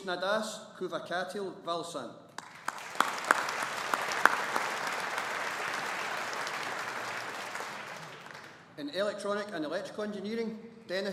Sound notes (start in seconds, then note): 2.3 audience applauding